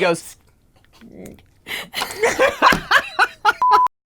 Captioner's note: laughter; smacking sounds